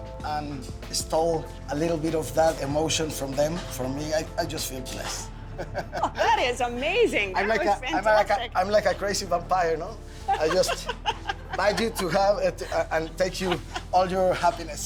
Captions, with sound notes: and stole a little bit of that emotion from them. For me, I just feel blessed. [ Both laugh ] -That is amazing. That was fantastic. -I'm like a crazy vampire, no? I just bite you to have and take all your happiness.